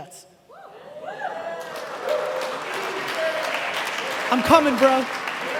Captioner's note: cheering and applauding